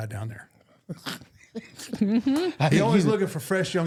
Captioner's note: laughing